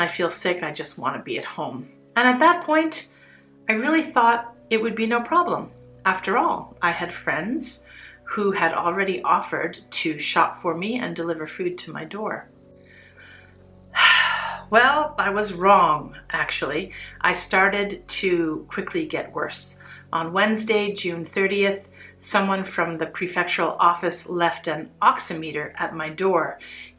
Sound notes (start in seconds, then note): 13.9 sigh